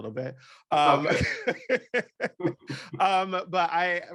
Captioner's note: laughs